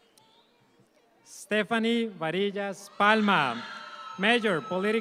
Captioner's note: audience applauds